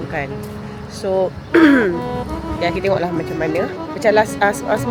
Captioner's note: clears throat